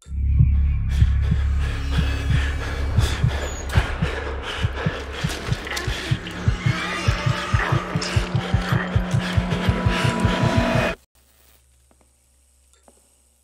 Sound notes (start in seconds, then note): 3.7 man panting